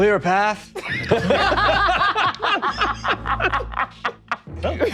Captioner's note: all laughing